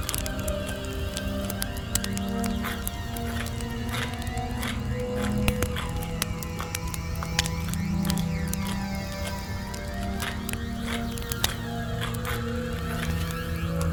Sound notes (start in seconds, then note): 0.1 quiet music continues; 2.9 stone scraping continues